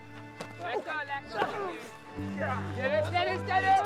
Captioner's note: grunting